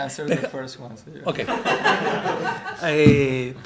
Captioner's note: laughter